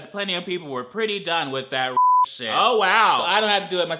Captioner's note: beep